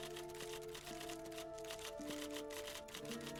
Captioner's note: typewriter keys clicking